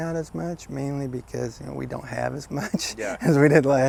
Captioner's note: laughing